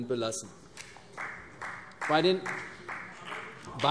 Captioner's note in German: Beifall CDU